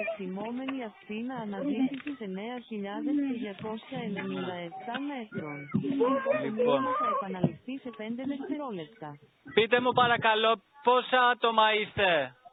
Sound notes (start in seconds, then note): 6.3 repairman screams